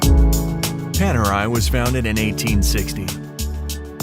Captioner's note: voiceover